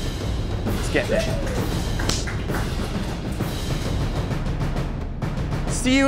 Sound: applause

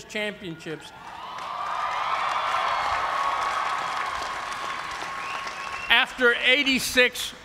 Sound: cheers and applause

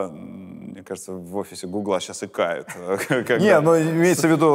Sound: chuckles

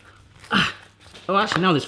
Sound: grunting

